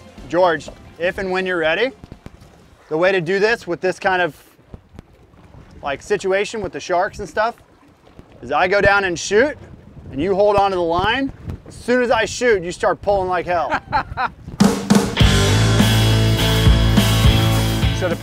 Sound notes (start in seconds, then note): 13.6 laughing; 14.6 upbeat rock music